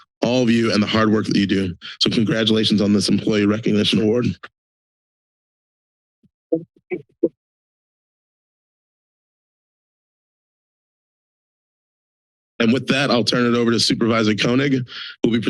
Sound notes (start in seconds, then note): 4.9 silence